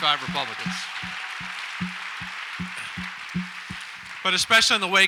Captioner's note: audience applauds